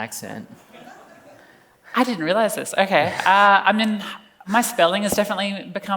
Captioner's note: laughs